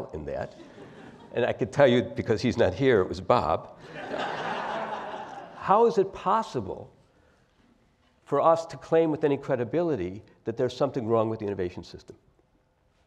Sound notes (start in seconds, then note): 3.9 laugh